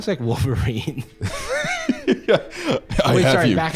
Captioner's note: laughs